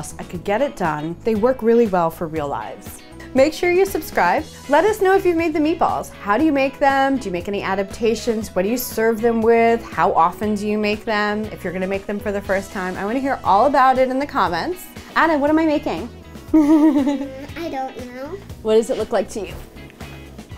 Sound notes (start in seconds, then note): 16.5 laughing